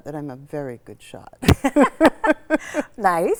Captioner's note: laugh